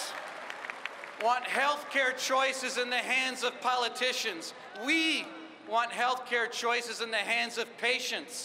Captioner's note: applause